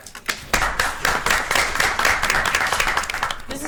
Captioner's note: audience applauds